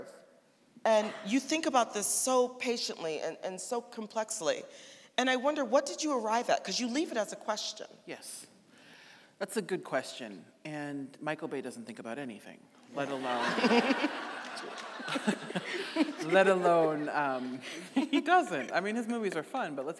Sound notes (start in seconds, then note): 13.0 audience laughing